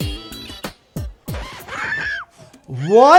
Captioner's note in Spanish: continúa la música funky; grita